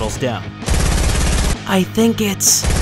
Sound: gun shots firing

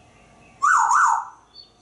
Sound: whistling

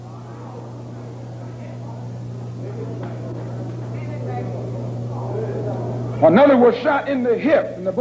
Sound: murmuring

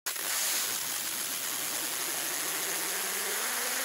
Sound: machine whirring

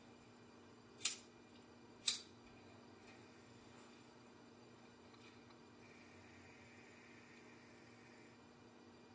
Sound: a lighter flicks on

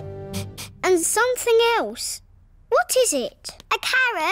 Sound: sniffs

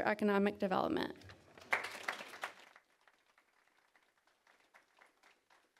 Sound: applause

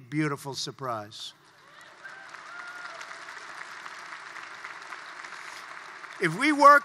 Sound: applause

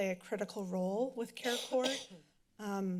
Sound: coughing inbackground

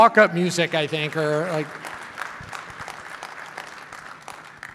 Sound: clapping

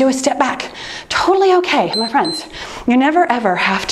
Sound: timer beeps

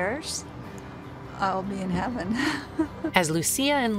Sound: laughing

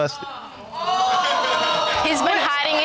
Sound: audience gasping

